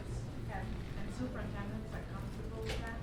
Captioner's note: voiceover